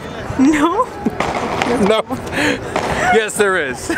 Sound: laughter

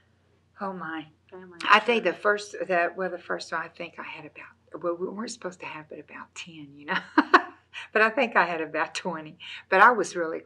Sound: laughs

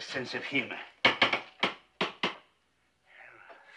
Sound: knocking on door

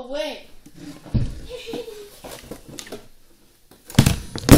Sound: laughing three more times

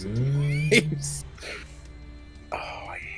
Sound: laugh

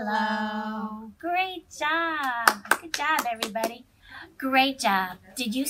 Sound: clapping

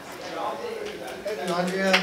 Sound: clapping

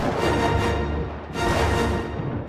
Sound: thunder clap

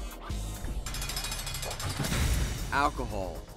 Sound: cell door closes

